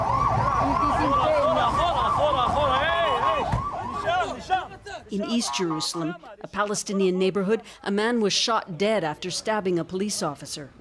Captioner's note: sirens